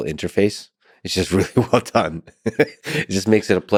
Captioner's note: laughing